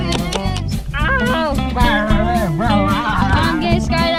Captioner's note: yelling